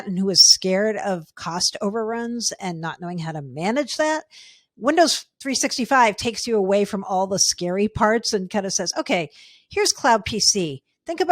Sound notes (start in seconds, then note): none